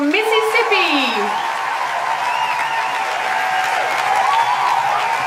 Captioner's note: crowd cheering